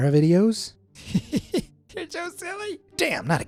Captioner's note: chuckles